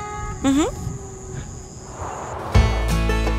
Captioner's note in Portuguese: Ruídos de mata